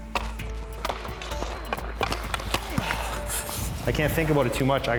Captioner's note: suspenseful music; stick slapping